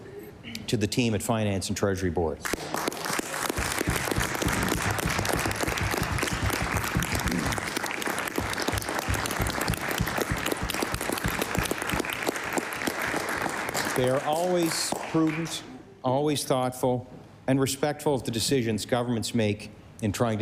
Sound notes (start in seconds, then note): 7.2 applause